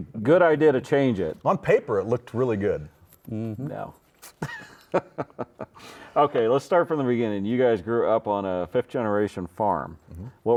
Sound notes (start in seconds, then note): 4.3 laughs